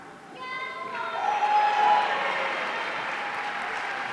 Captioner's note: audience cheering